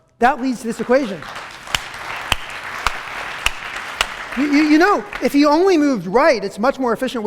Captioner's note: applause